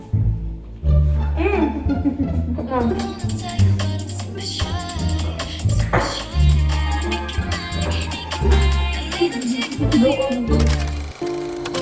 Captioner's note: speaking German; laugh